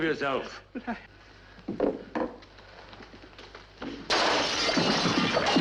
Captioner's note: vidro quebrando